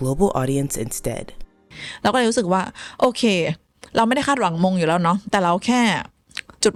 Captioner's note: speaking Thai